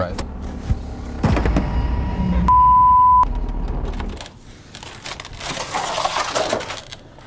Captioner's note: beeping; dramatic music